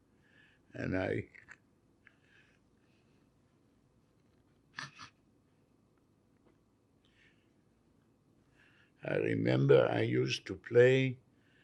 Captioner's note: crying